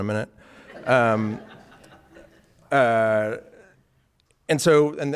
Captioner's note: audience laughing